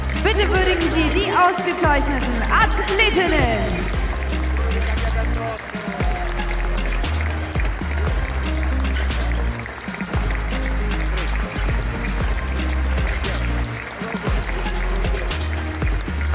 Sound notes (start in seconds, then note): 5.5 applause; 5.5 ♫ Midtempo guitar music ♫